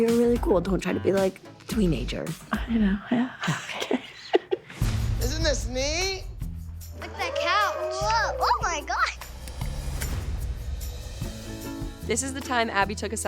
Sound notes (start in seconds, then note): 2.4 laughs